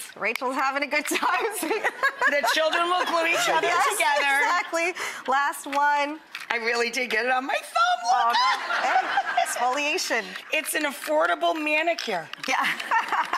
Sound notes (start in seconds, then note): 1.5 laughs; 8.3 audience laughs